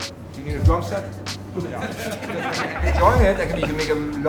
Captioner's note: staff laughing